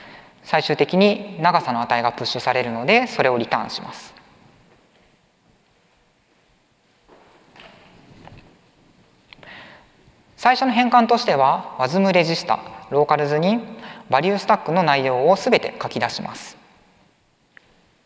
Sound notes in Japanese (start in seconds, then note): none